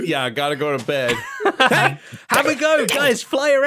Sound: laughs

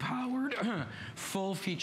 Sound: coughing

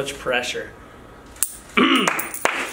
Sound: clears throat; coin clatters; applause

